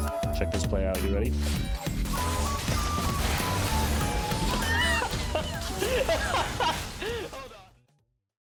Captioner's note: laughter